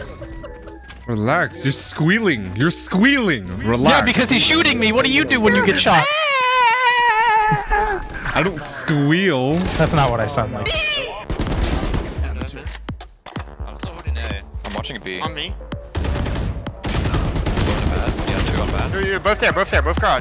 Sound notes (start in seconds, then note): 6.2 squealing; 11.2 guns firing; 13.2 gun cocks; 17.7 guns firing